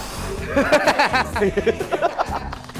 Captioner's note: frenzied